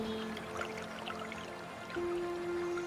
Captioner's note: water rippling; ethereal music